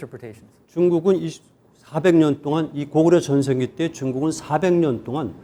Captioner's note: speaking in Korean